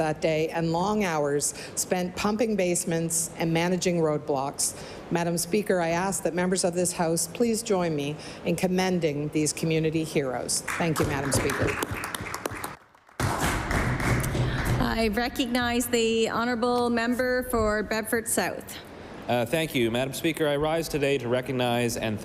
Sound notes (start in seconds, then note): 15.2 applause